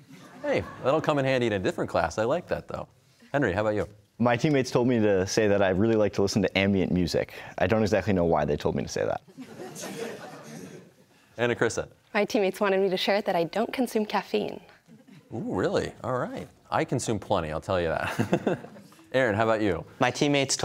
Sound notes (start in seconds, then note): 9.3 laughter; 18.0 laughs